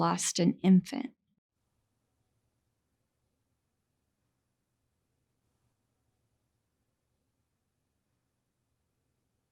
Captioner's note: silence